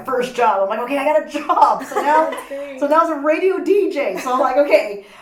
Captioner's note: all laugh